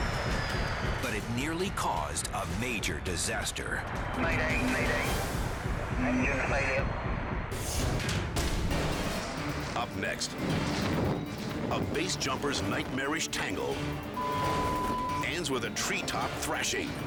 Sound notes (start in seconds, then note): 14.1 beep